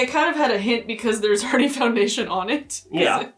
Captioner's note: laughs